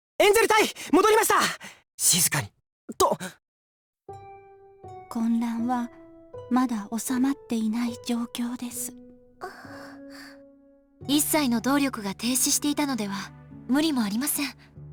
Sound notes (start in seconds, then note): 2.2 whisper; 9.4 worried breath